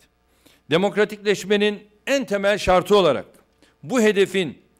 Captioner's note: non-english speech